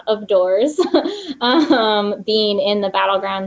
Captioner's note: laughs